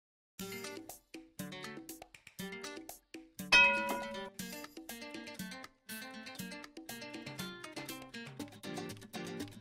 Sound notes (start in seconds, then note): 3.5 elevator Bell